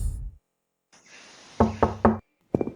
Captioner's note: knocking